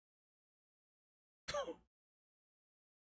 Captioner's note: sobs